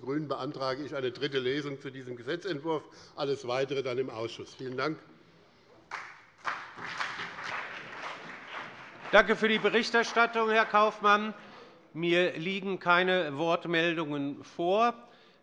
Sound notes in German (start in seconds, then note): 5.8 Beifall bei dem BÜNDNIS 90/DIE GRÜNEN und der CDU